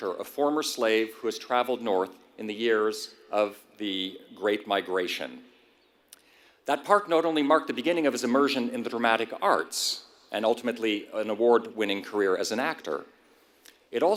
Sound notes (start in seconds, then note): none